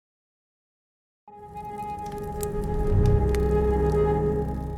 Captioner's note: fire crackling